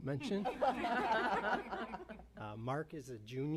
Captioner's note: laughter